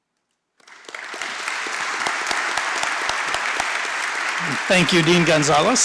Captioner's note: applause